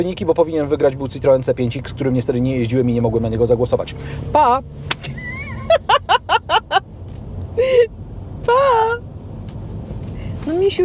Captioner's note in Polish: śmiech